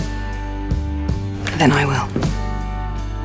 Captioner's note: voiceover